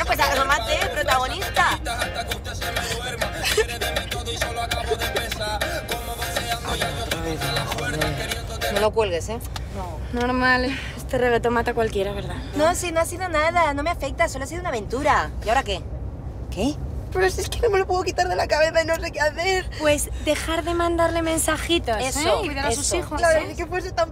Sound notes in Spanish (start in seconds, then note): 2.6 Sollozos